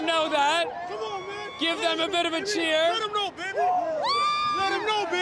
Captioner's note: cheers and Applause